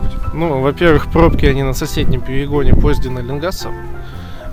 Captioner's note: speaks railway clerical language